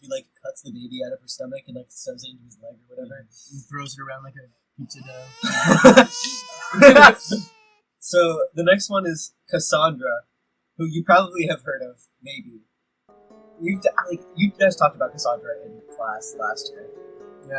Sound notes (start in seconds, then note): 4.9 baby crying; 5.4 laughter